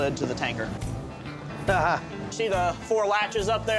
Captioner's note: chuckles